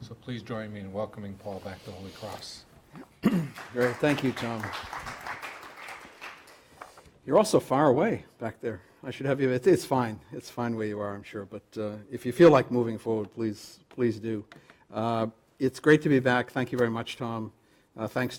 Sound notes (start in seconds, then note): 3.4 applause